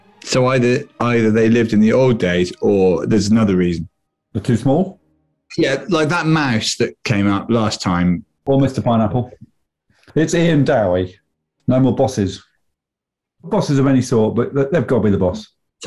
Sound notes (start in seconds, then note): none